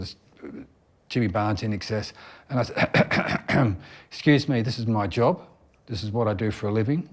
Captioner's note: clears throat